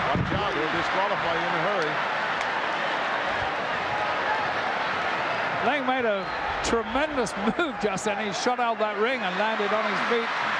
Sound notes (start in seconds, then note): 1.9 crowd yelling